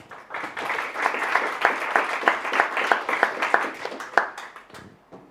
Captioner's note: applause